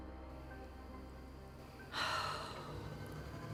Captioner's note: sighs